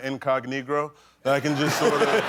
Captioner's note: laughter